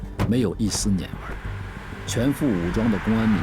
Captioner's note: Traffic